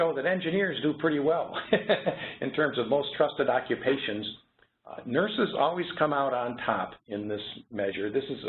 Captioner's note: laugh